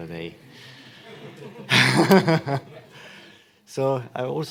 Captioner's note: laughter